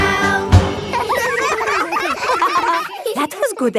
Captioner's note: all giggling